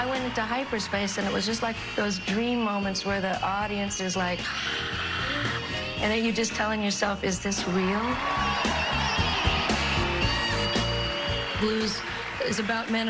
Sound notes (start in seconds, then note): 4.7 imitates audience cheering